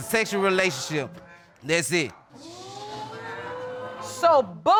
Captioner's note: audience exclaiming